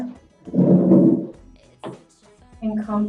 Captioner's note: chair moving